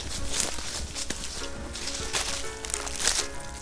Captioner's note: leaves crunching